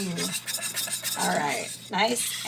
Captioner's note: metallic scraping